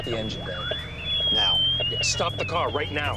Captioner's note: alarm